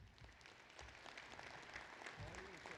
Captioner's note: applause